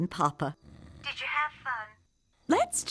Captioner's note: snoring